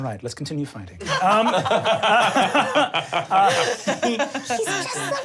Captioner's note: laughs